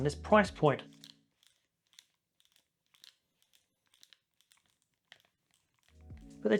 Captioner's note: creeking sound